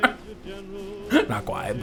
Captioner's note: laughs